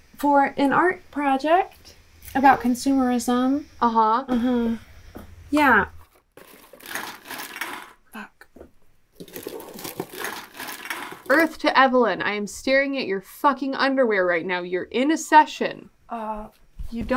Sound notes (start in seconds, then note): 6.9 cans rattling; 9.2 shuffling trash